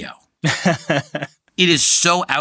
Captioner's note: chuckles